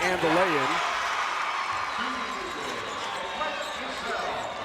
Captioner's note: crowd cheers